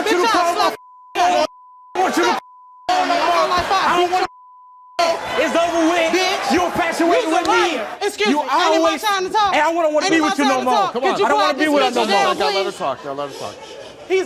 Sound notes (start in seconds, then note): 3.4 overlapping chatter